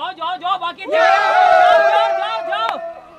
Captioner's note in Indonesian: Teriakan